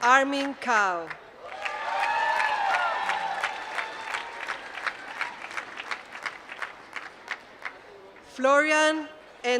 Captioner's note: applause